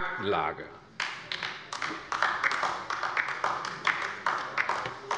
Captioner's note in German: Beifall bei der LINKEN